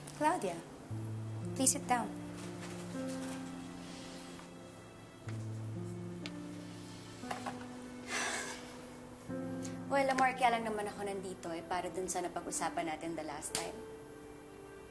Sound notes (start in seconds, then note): 8.0 sighs